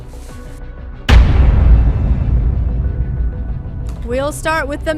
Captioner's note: intense pound